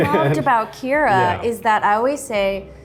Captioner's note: laughs